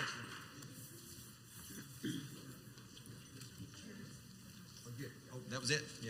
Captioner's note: male announcer speaks quietly, not into the microphone